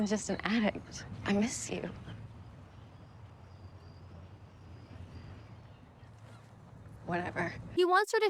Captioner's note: silence